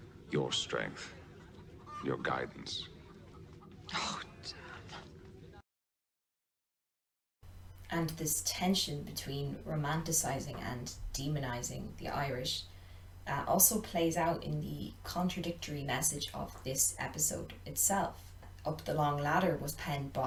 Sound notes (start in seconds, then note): 2.9 general sounds of livestock in background